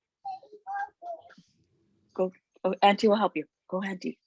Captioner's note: child speaking faintly